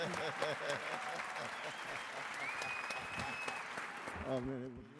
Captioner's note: audience applauds